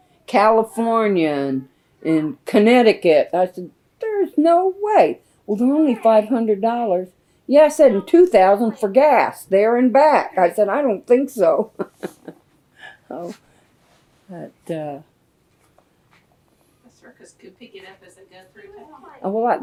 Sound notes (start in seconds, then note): 11.5 laughs